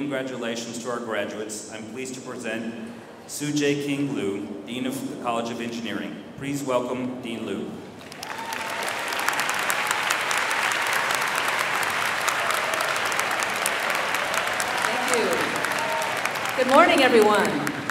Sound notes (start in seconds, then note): 8.0 audience cheering and clapping